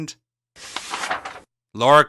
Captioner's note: turns the page in the script